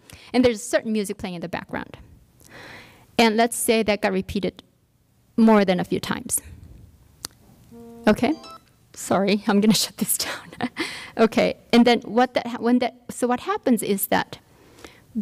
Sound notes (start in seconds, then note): 7.7 phone ringing